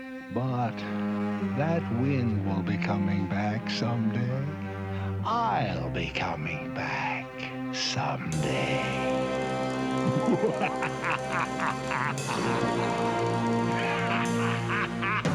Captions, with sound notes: ...but that wind will be coming back someday. I'll be coming back someday. [LAUGHING MANIACALLY]